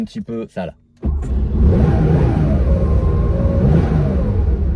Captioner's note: engine starting